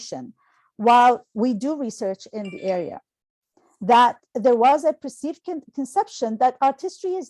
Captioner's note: phone chime